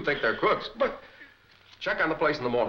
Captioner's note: Axford splutters